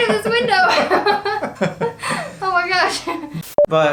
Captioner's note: laughter